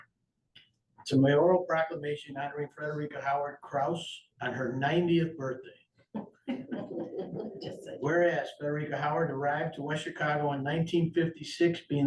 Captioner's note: laughter